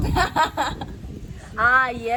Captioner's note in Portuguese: laughing